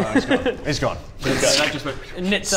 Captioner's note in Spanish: shoom